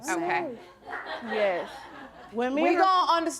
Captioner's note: audience laughing